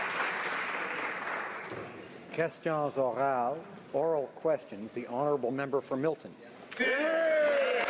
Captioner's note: applause